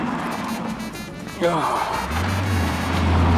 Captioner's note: richard sighs